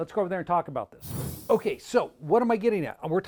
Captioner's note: screen whooshing